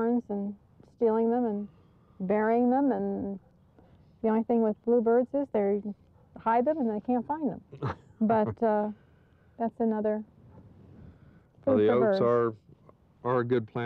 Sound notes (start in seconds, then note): 7.7 chuckling